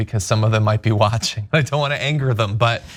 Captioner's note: laugh